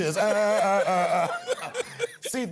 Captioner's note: laughing